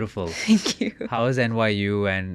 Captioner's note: chuckles